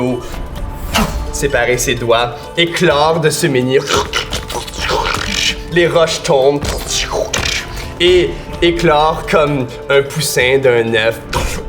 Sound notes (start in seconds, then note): 0.1 burst of magic; 3.2 cracking